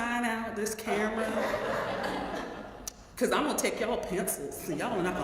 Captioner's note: laugh